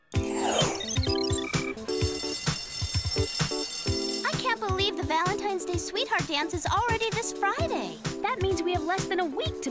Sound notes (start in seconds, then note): 2.0 school bell ringing